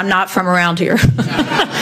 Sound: audience laughs

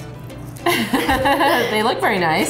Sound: laughter

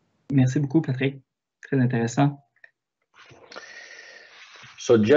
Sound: speaks in foreign language

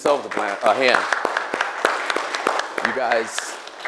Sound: applause

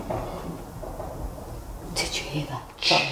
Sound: faint footsteps

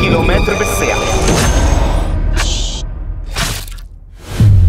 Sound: clock ticking

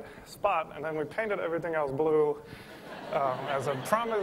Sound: laughter

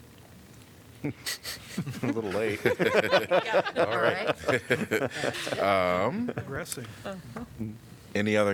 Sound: laughter

